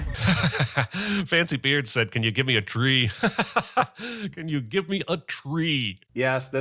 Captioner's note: laughs